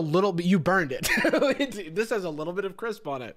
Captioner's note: laughs